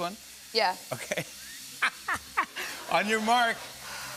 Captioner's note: laughs